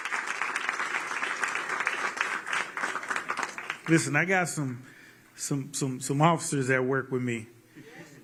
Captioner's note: applause